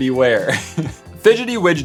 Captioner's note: laugh